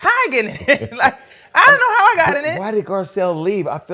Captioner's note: laughs